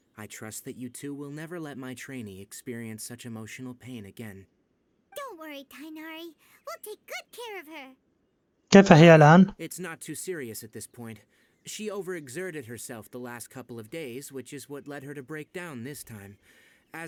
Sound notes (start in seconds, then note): none